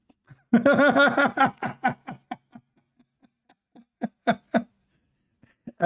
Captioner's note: Ketawa